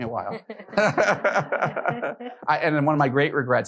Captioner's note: all laughing